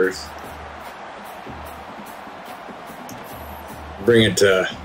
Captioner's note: crowd cheering